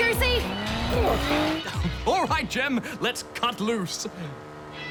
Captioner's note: chortles